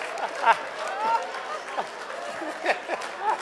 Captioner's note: laughing